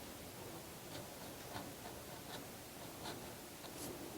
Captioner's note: fineliner scratching